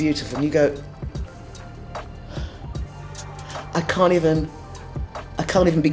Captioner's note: sighing